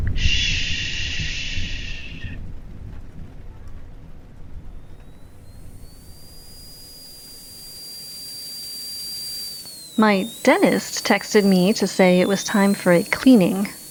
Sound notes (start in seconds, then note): 6.0 dentist drill, underlying